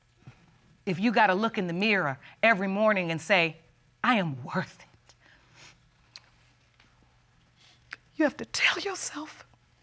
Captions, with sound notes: If you got to look in the mirror every morning and say, "I am worth it." [sniffles] [voice breaks] You have to tell yourself...